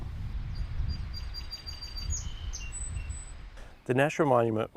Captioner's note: birds tweeting